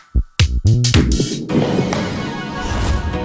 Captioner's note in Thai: ตึกตัก ตึกตัก